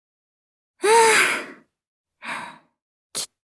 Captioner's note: sigh